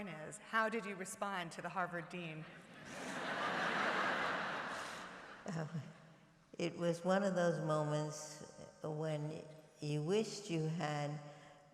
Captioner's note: laughter